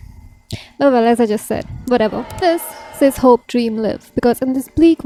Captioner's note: crowd boos